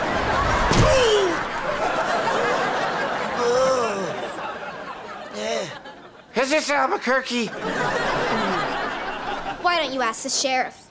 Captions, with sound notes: [groaning] [groaning] Is this Albuquerque? Why don't you ask the sheriff?